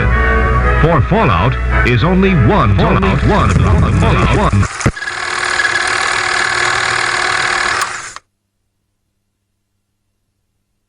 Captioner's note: audio becomes distorted